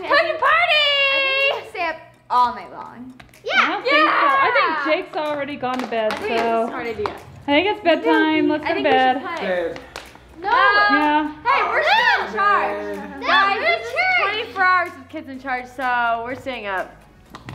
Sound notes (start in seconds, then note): 10.3 yells